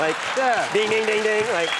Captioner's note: audience laughs